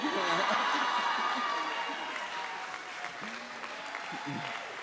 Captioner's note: audience cheers and applauds; chuckles